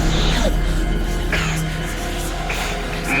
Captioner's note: coughs